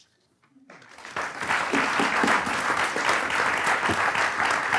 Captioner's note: audience applauds